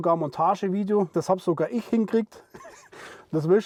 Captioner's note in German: lacht